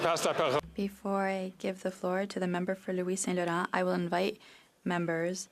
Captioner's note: speaking French